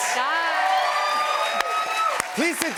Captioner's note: cheers and applause